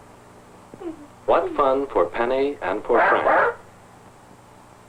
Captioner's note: stupid barking